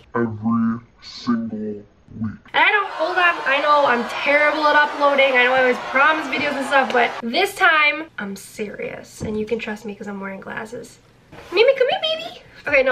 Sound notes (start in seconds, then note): 2.5 audience jeering